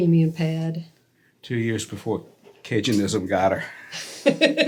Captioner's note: both laugh